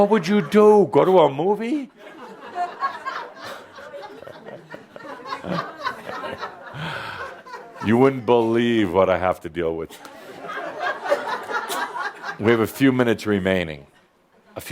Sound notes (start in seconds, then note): 5.7 laughter